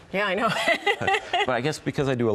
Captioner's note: laughs